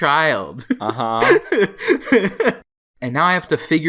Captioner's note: laughs